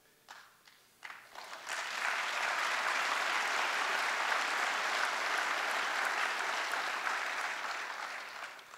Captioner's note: applause